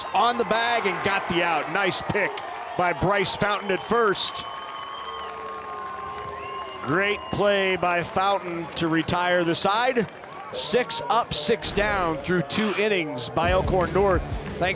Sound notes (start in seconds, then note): 4.5 crowd cheering